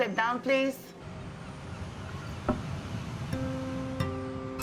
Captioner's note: seagulls squawking